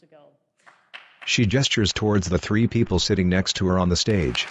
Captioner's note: applause